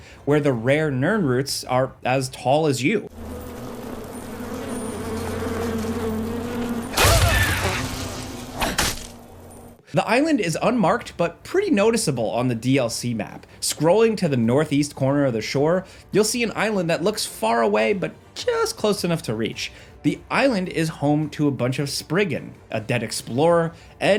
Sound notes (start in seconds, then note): 3.1 insects buzzing; 8.6 sword thwacks